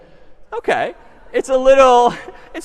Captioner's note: laughter